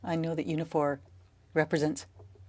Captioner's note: speaking French